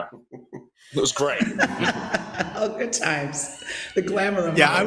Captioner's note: laughs